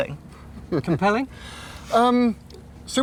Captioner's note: chuckling